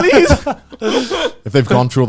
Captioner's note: laughing